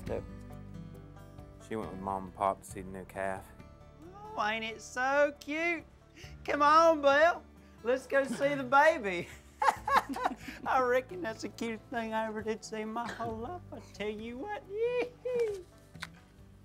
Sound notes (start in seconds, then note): 9.5 laughs